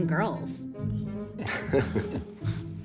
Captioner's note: laughs